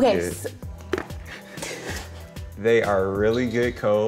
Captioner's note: laughs